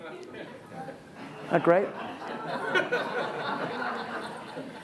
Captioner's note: audience laughs